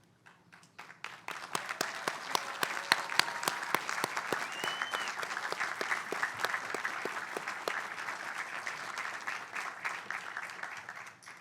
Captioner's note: applause